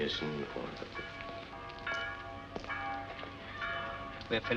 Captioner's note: church Bells